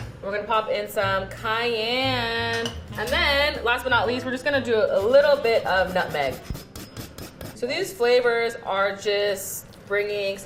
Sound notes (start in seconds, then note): 0.0 jazzy music; 6.5 grating nutmeg